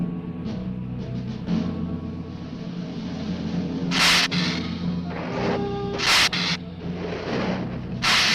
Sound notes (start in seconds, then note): 3.9 lizard hissing